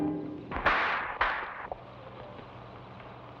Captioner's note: torch rattles; hand slaps